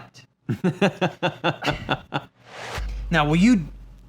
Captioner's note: laughs